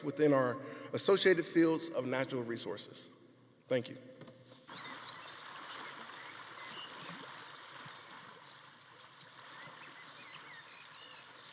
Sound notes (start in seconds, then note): 4.7 birds chirping; 4.7 stream burbling